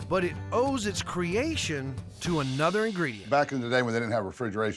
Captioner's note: none